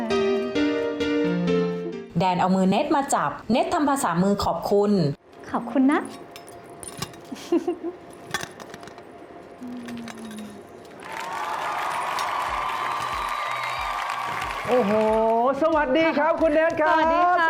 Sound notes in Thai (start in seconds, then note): 7.3 เสียงหัวเราะ; 11.0 เสียงเอฟเฟกต์ปรบมือ